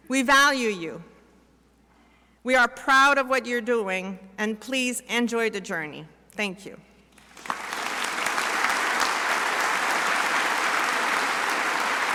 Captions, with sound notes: We value you. We are proud of what you are doing. And please, enjoy the journey. Thank you. (crowd applauding)